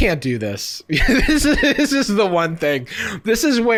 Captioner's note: laughing